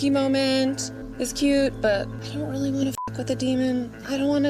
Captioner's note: beep